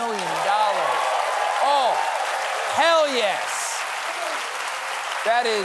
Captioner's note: cheers and applause